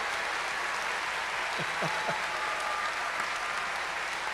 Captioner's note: cheers and applause